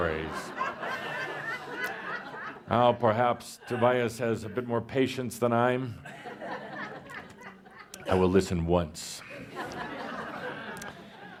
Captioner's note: laughter; more laughter